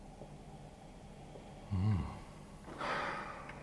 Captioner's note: intense sniff